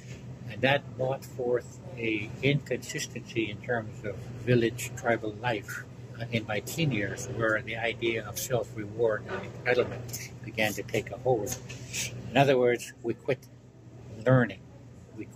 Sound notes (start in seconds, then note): 9.3 chair squeaks